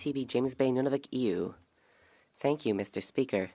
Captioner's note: speaking French